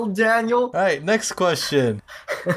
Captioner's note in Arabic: يضحك بالخلفيه